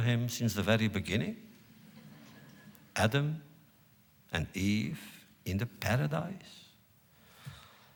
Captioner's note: laughter